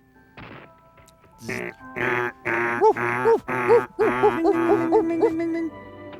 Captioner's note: imitates the sound of klaxon, barking dogs, and alarm bells